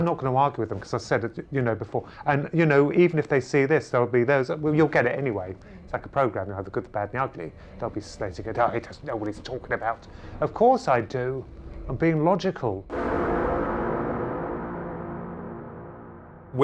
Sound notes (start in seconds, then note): 12.9 object clangs